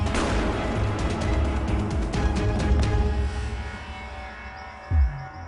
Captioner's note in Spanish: Explosión